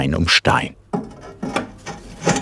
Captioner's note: grinding noises